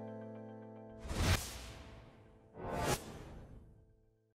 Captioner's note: air swooshing